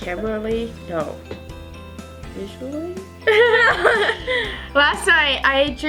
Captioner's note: both laugh